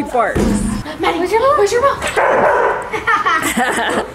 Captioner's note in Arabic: ينبح كلب; يضحكون جميعًا